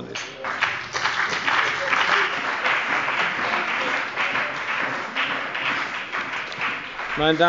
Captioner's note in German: Beifall bei der CDU und dem BÜNDNIS 90/DIE GRÜNEN